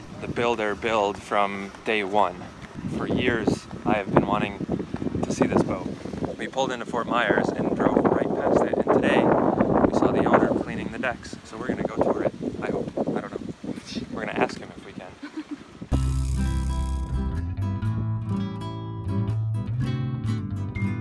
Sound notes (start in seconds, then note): 15.1 laughs; 18.2 classical guitar